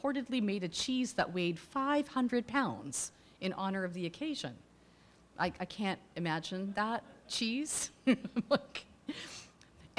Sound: laughing

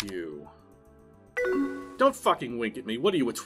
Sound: incoming message

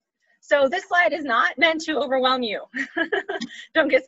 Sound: laughs

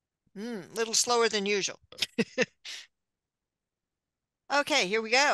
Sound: chuckles

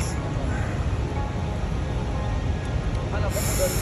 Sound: waterfall roaring

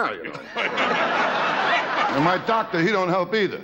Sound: audience laughing

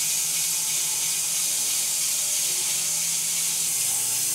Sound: saw whirring

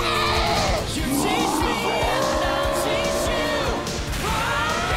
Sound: grunting; roaring; both screaming

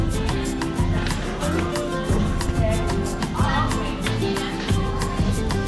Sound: murmur of store patrons

